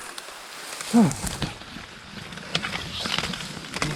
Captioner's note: premature sigh of relief